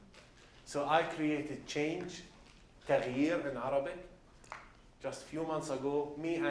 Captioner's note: non-english